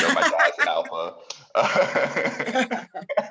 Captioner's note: laugh